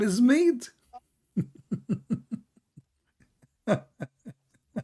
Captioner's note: Ketawa